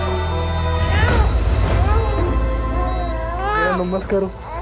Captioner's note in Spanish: Sollozos; Llanto de la bebé